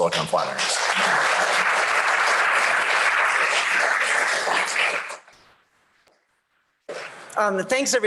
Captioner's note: applause